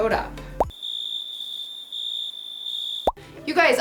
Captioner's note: crickets chirping